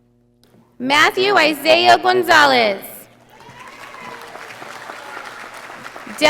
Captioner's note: audience applauding